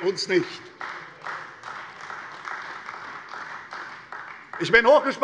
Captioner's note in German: Beifall bei Abgeordneten der CDU